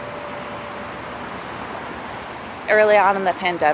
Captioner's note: waves sloshing